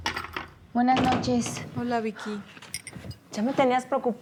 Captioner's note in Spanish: ruido al entrar